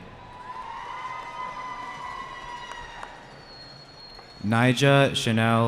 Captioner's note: cheering